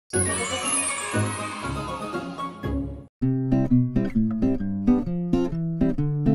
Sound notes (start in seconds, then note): 0.3 children cheering; 3.6 light music